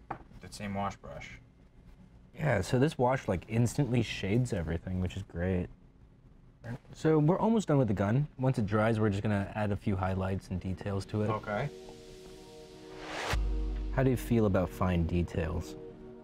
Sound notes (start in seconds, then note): 11.2 rising ethereal tone